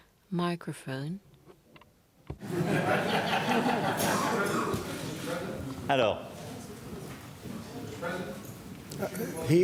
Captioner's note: laughter